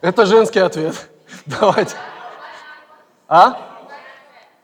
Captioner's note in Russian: голоса из зала